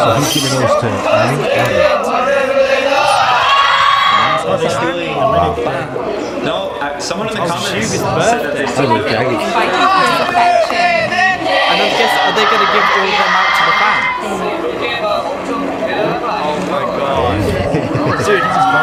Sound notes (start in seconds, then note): 3.3 ARMYs cheer